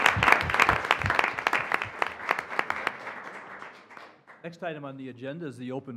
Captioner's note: applause